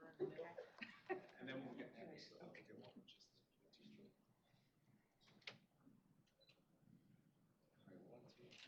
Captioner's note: indistinct chatter